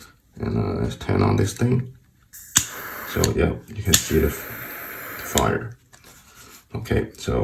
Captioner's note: flame